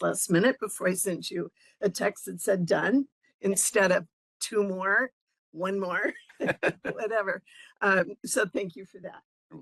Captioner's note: laughing